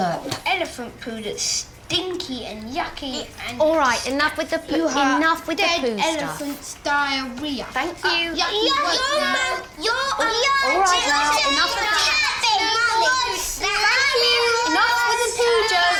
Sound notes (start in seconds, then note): 9.8 all shout at once; 11.8 all shouting at once